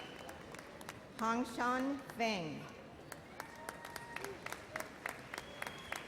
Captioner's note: audience applauds